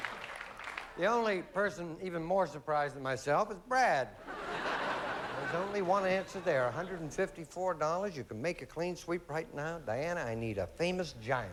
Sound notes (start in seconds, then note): 4.2 laughter